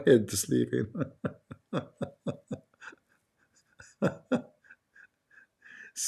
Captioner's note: Ketawa